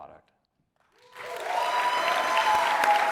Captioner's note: applause